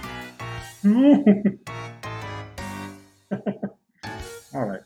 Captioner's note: chuckles